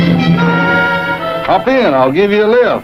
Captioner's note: car engine; dramatic music